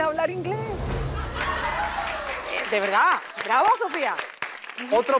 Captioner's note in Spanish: Aplausos